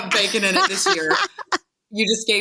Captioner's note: laughing